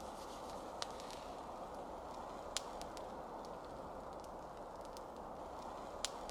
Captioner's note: sounds of fire